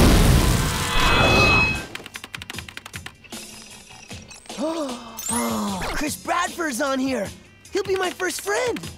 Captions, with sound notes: [gasping] Chris Bradford's on here. He'll be my first friend.